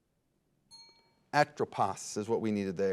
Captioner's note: signal dings